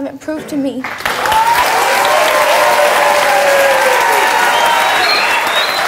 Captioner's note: audience clapping and cheering